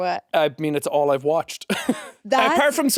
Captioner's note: chuckles